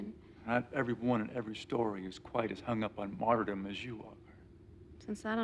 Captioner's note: none